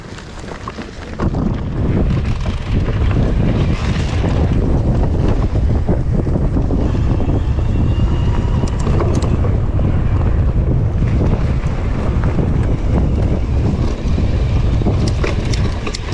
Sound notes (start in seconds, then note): 0.1 dirt rustling; 2.0 bike ratchets; 7.5 bike humming; 7.5 dirt rustling